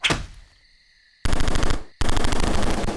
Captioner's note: gunshots